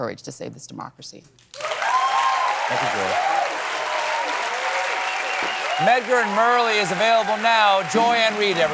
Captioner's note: cheers and applause